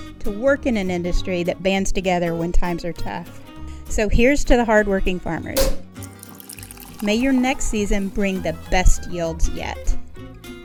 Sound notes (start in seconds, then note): 5.6 cork popping; 5.9 liquid pouring